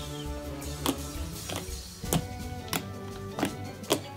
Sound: slime squishes

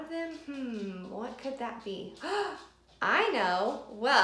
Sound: gasping

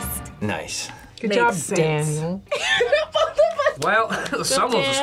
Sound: laughs

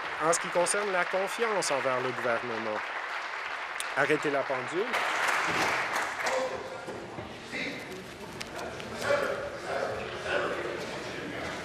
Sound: applause

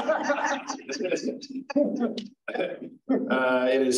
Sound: all laugh

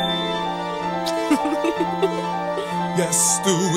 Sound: kiss smacks

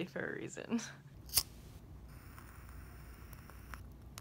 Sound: lighting candle sounds; candle crackling

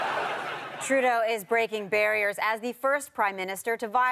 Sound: audience laughter

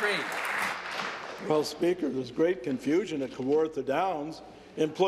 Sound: applause

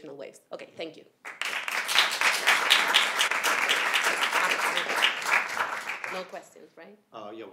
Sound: applause

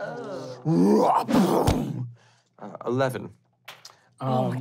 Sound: groaning; thump

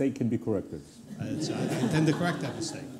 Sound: laughter

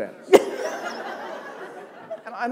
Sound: laughter

